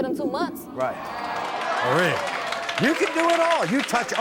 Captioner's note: audience cheering